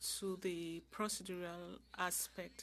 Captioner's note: speaking French